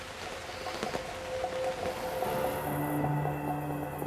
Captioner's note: rain drizzling